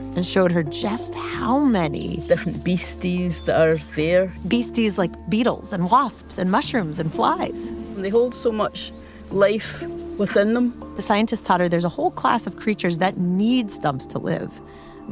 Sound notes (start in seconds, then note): 5.8 the buzzing of a fly–a hum of life